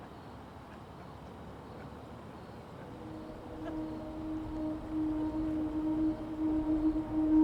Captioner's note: ambient music; distant laughing